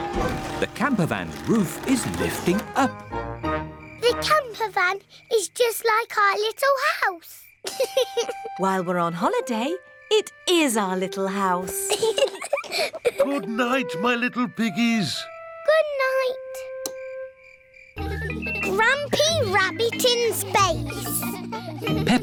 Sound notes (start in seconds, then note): 7.6 george laughs; 11.8 both laugh; 17.9 children giggling